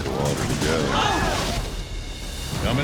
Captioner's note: huge splash